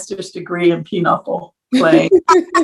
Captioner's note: laugh